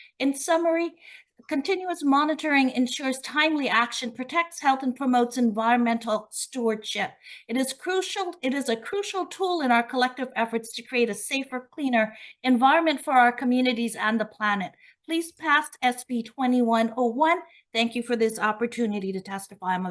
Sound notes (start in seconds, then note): none